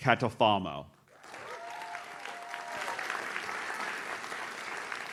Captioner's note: audience claps